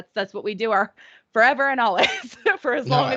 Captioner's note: chuckling